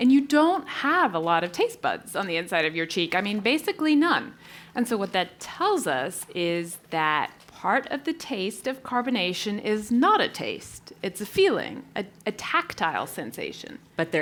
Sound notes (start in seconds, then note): none